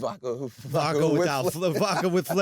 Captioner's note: laughing